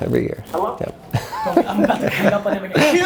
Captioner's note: laughing